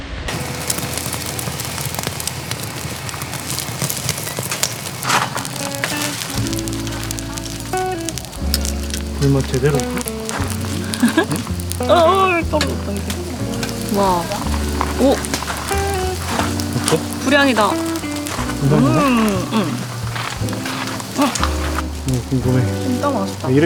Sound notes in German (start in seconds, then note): 15.4 lacht